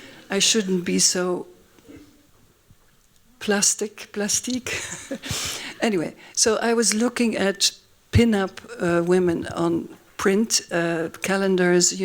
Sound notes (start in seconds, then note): 4.6 laughs